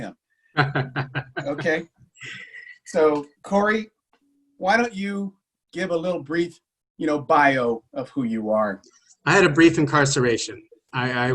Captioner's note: chuckles